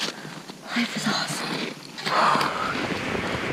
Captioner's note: breathes